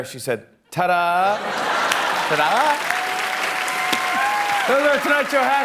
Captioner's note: laughter